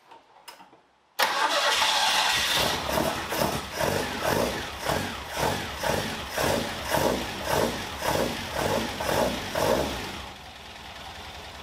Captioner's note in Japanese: エンジン音